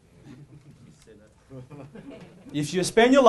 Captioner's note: audience laughing